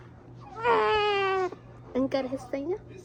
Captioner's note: waaah